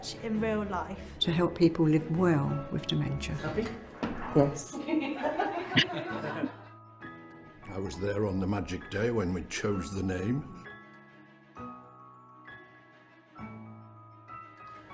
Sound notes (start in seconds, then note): 4.9 all laugh; 10.8 gentle music